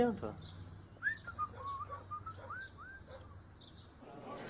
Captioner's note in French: Sifflotement